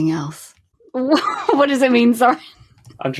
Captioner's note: laughing; laughs